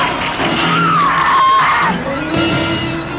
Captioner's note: screams